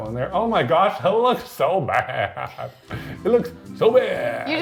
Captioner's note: laughs